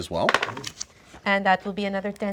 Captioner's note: dice clatter